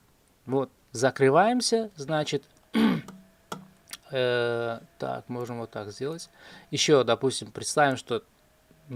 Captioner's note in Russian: откашливается